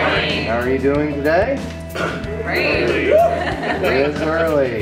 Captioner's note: laughs